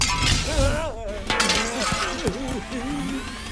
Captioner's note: panting; loud smash